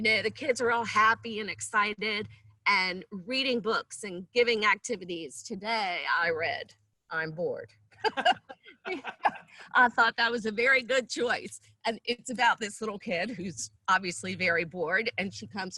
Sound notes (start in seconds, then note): 8.0 laughs